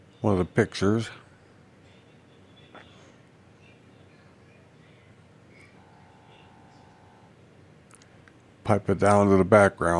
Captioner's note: silence